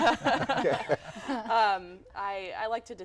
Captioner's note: laughter